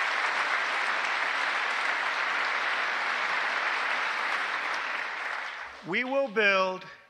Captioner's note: applause